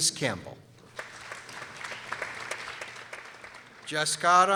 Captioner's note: people applauding